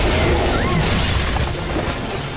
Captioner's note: Lalafell Noise